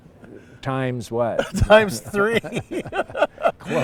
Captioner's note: laughter